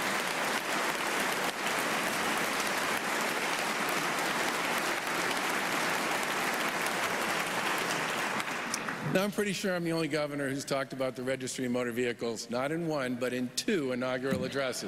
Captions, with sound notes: THANK YOU MADAM SECRETARY. [ APPLAUSE ]